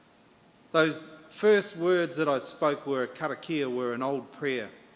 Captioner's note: in English